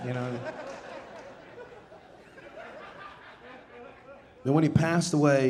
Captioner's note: audience laughing